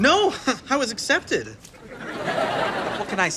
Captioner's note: audience laughter